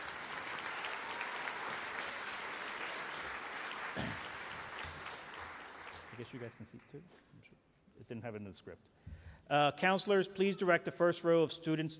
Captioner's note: applause